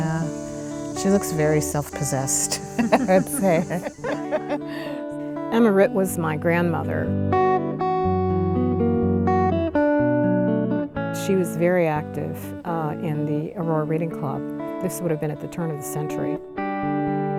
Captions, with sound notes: - Yeah. She looks very self-possessed, I would say. (both laughing) - Emma Writt was my grandmother. (gentle music continues) She was very active in the Aurora Reading Club. This would've been at the turn of the century.